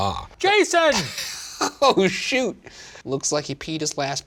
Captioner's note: laughing